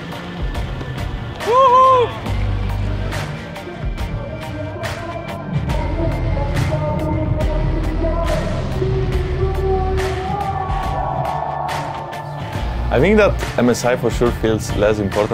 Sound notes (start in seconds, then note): 4.4 muffled vietnamese; 10.4 crowd cheering